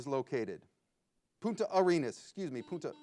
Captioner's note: buzzer beeps